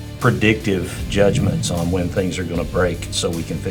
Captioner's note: screen whooshing